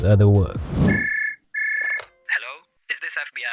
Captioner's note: beep Beep